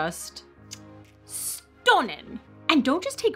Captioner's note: kiss